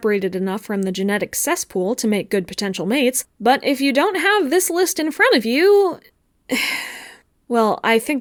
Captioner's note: sigh